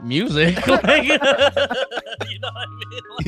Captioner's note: laughing